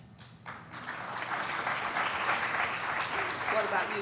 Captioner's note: applauding